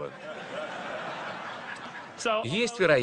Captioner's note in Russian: Смех в зале